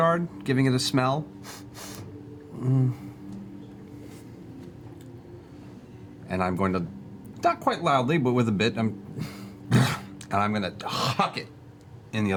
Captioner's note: disgusted sound